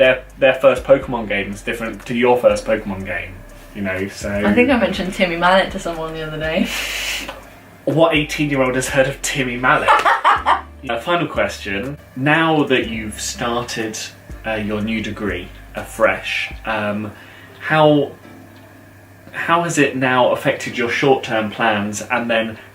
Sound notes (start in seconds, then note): 9.8 laughter